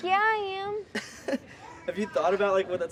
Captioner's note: laughing